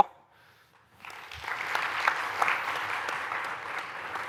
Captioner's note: applause